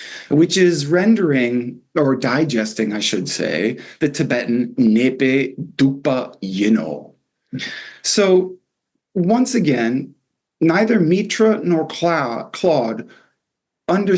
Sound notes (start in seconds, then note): 6.0 non-english